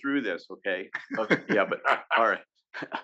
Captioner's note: laugh